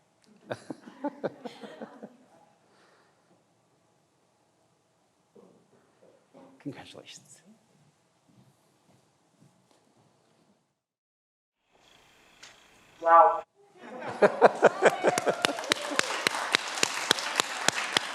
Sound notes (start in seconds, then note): 0.5 laughs; 13.8 everyone laughs; 14.4 everyone applauds